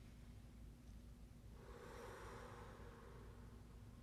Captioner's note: exhaling